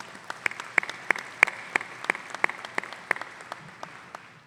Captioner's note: audience applauding